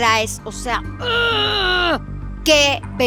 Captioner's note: groans in excitement